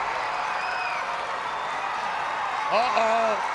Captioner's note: crowd cheering